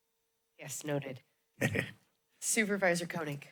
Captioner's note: chuckles